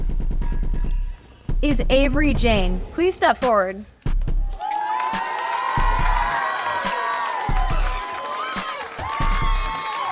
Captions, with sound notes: Is Avery Jane, please step forward. (crowd cheering)